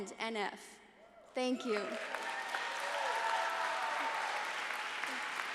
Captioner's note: audience applauds